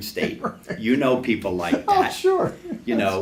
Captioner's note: laughs